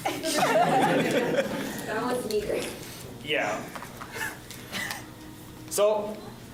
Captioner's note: laughs